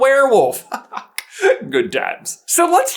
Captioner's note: chuckles